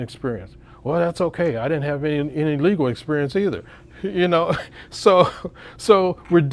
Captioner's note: laughs